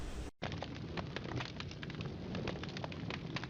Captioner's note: flames crackling